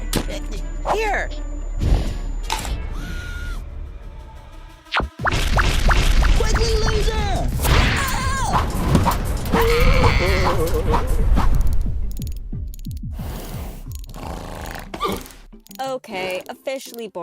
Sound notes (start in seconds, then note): 1.8 huff; 3.0 muffled screaming; 9.6 screaming; 13.2 sniffing